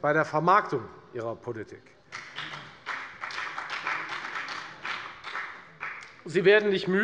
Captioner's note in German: Beifall bei der FDP